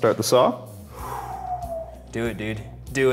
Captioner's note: exhales